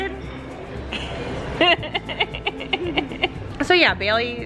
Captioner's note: laughing